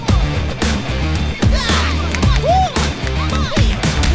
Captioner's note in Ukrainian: Крики підтримки